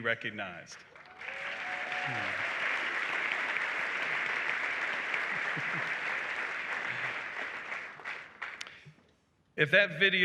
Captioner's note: applause